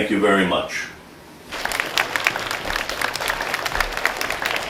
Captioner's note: applause